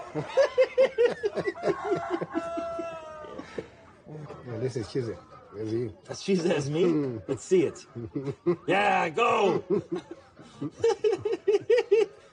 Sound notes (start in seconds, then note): 0.0 burst out laughing; 1.4 rooster caws; 9.3 laughs